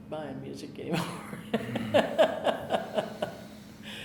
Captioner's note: laughing